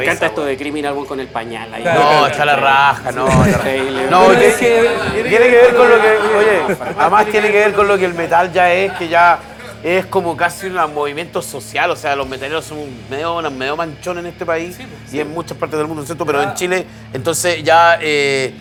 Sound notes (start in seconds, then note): 5.2 laughter